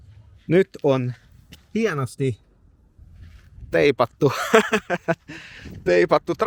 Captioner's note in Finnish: naurua